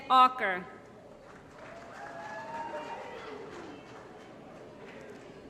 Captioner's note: applause